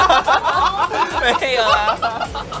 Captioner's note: laughter